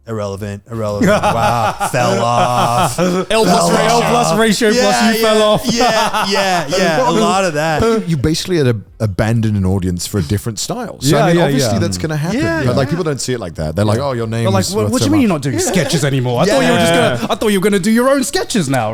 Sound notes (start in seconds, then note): 5.9 laughing